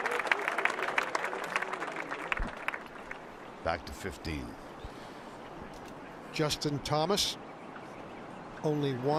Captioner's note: cheers and applause